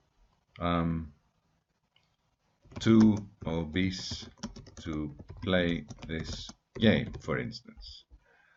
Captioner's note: typing